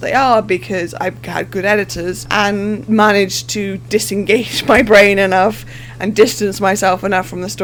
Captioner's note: laughing